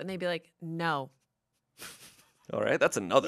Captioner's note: laughs